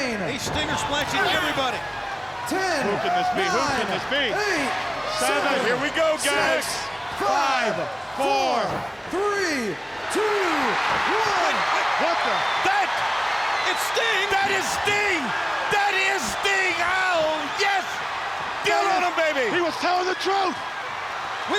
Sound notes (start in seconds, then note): 10.1 crowd cheering; 14.3 crowd cheering